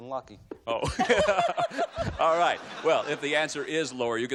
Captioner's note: laughs